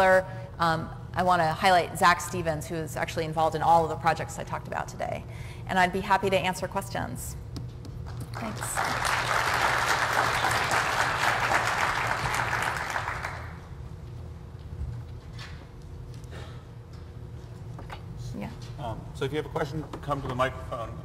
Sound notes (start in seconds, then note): 8.1 applause